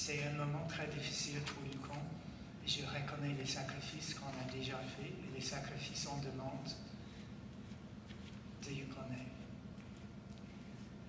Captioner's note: speaking French